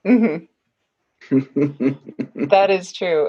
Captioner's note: laughing